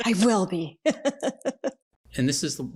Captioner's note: both hysterically laughing